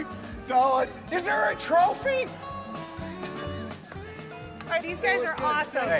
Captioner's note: chuckles